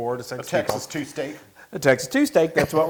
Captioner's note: laugh